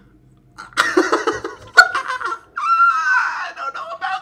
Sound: laughs

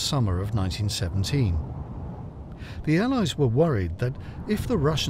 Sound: wind howls

